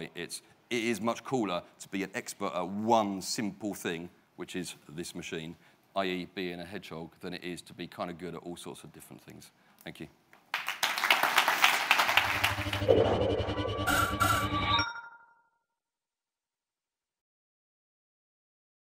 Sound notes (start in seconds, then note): 10.4 applause; 12.5 electronic sounds